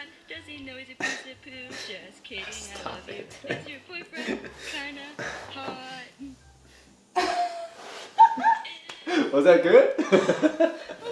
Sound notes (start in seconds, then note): 4.0 chuckles; 8.0 laughing